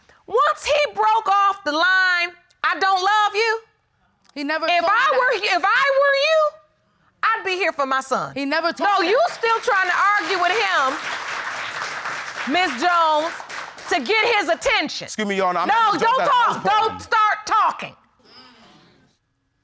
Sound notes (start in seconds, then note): 11.0 audience applaud